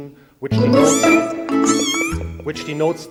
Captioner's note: loud cat meowing and playful music